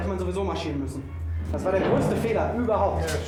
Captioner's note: speaking german